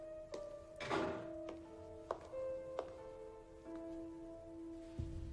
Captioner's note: door slams shut; eerie music playing